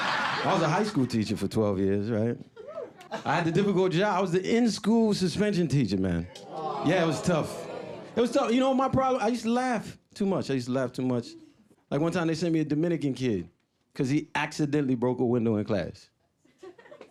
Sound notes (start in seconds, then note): 0.0 audience laughing; 6.4 audience oohs